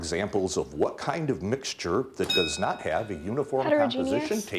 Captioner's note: bell dinging